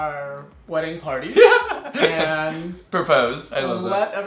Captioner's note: laughs